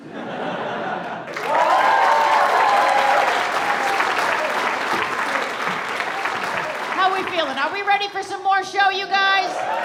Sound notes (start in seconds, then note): 0.0 audience laughs; 1.2 audience applauds and cheers